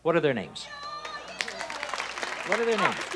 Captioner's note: audience applause